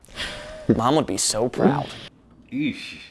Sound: laughs

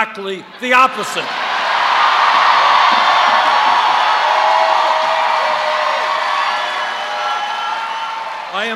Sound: cheers

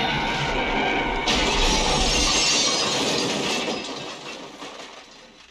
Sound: tires screeching

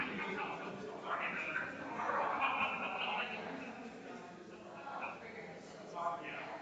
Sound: people chattering distantly continues

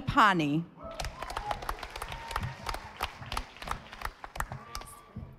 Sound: audience applauding

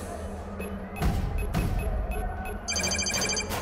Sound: beep beep beep beep; phone calling

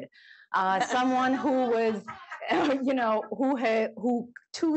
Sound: laughter

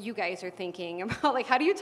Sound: laugh

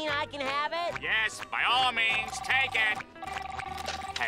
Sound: phone ringing

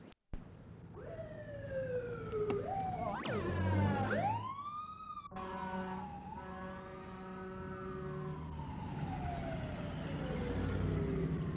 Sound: sound of fire engine sirens

